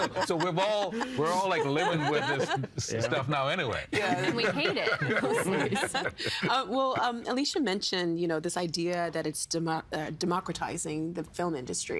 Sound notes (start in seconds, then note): 4.0 laughing